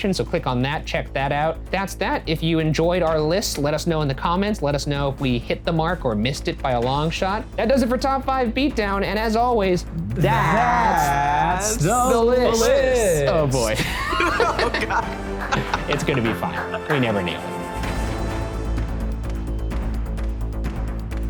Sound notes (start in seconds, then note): 14.0 laughing; 17.9 dramatic, upbeat music